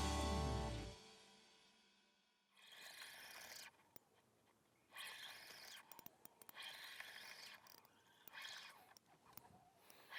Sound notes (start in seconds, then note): 3.2 reel buzzes